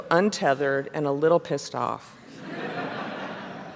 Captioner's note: laughter